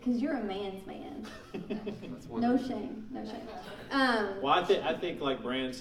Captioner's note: laughing